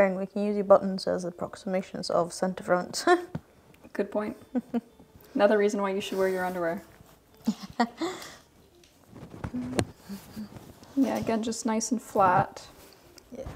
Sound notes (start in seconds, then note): 4.5 chuckling; 7.4 laughing